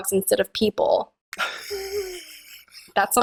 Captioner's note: laughter